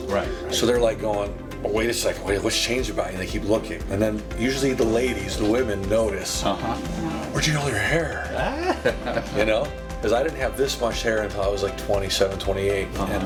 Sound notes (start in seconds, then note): 8.1 doctor laughing